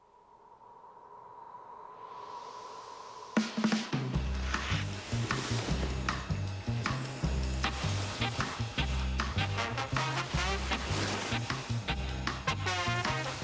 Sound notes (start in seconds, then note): none